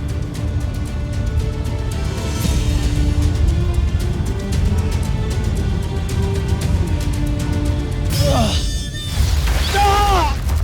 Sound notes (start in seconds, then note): 8.1 groans; 9.0 powerful splash-crackle; 10.4 water splashes